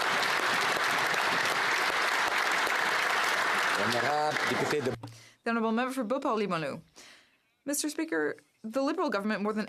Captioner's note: applause